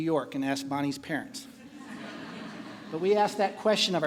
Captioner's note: laughing